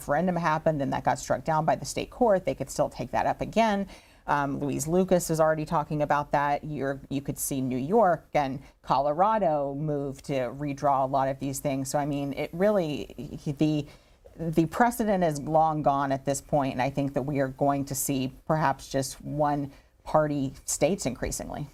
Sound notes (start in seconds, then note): none